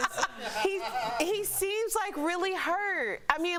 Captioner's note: laughter